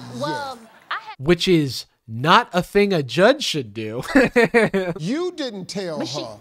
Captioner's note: laughs